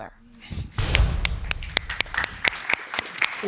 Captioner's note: audience applauds